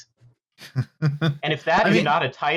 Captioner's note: chuckles